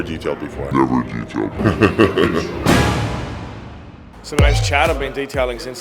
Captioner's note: laughs